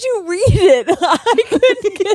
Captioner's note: both laughing